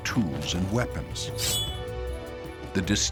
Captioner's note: spear point sings